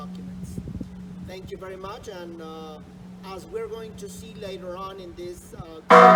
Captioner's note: church bell rings